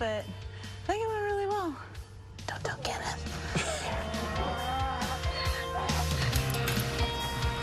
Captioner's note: whispering